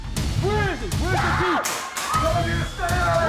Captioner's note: people scream